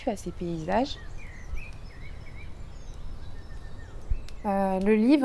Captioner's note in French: bruits d'oiseaux